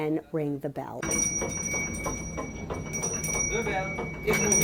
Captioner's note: bell ringing